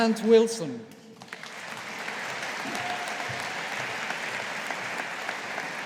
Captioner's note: audience applauding